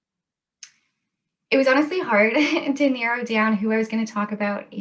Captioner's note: laughs